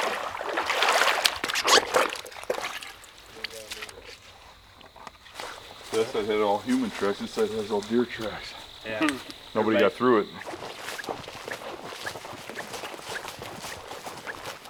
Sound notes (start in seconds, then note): 0.0 water sloshing; 1.9 boots squeaking / general noise; 10.7 walking noises